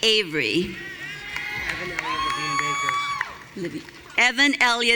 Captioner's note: audience cheering